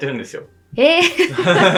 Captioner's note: laughs